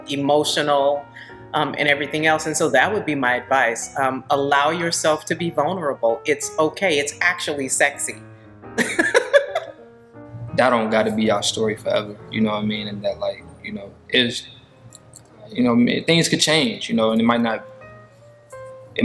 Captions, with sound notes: emotional and everything else. And so that would be my advice. Allow yourself to be vulnerable. It's okay, it's actually sexy. (laughing) - That don't gotta be our story forever, you know what I mean? And that like, you know, it is, you know, things could change, you know, and it might not,